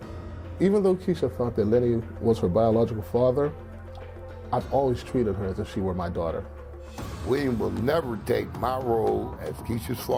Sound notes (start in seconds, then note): none